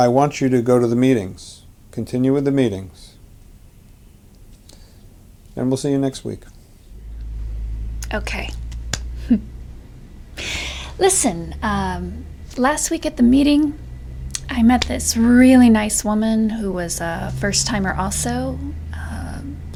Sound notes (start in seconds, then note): 9.1 chuckles